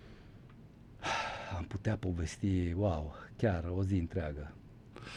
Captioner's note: sigh